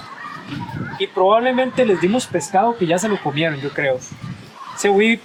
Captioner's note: in Spanish